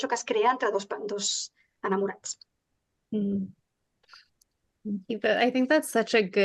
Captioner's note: continues speaking in Catalan